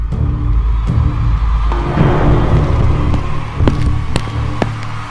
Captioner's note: crowd cheering